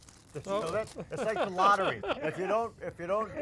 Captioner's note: laughs